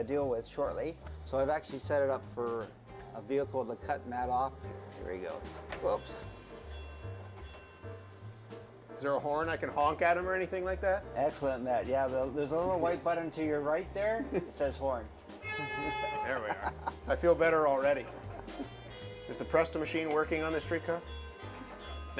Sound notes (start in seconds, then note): 8.3 bell chimes; 15.4 horn bleats